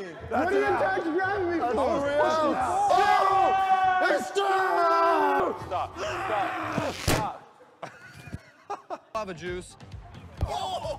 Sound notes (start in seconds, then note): 7.5 wheezes and laughs